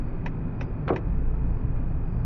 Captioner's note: turn signal clicks off